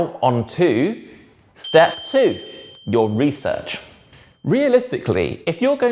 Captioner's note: bell dings